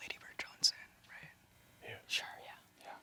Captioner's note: whispering